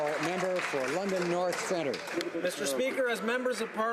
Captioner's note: some Applause